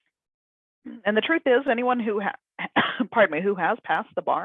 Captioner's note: coughs